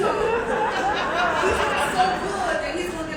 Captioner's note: audience laughing